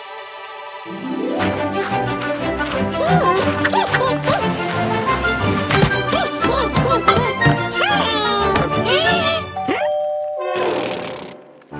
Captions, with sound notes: Heh, heh, heh! Heh, heh, heh, heh! Heeeeey! (inhales) - (doorbell rings) - Hmm? Pfffffffft!